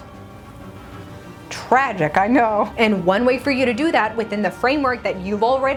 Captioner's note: none